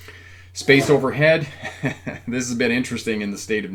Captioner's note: laughs